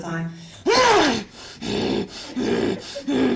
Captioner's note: growls